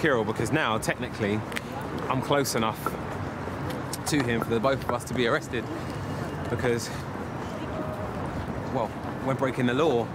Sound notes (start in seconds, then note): none